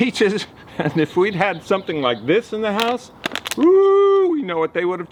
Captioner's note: chuckles